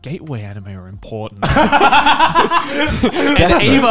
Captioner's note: laughing